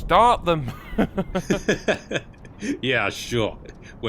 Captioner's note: men laugh